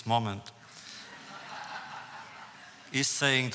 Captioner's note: audience laughs